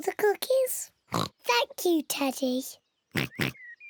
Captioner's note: in normal voice; oinking